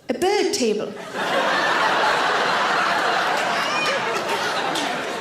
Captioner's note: audience laughs